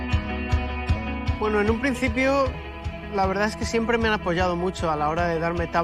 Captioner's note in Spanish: voz en off